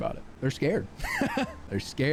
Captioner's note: laughs